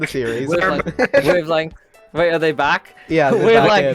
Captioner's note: laughs